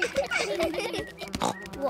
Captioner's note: buzzing